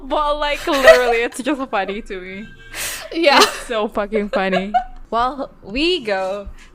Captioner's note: laughs; laughs